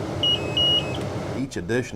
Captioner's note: alarm sounding